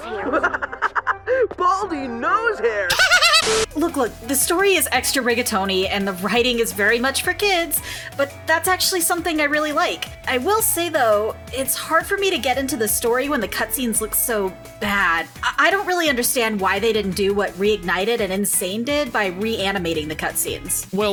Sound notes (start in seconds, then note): 2.9 demonic child giggle; 2.9 laughs